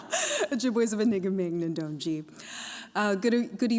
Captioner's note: laughs; non-english speech